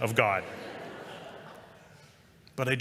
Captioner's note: laughter